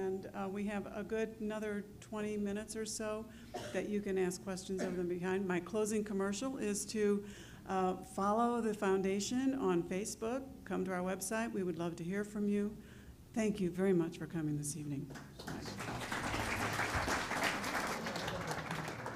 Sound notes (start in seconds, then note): 15.1 applause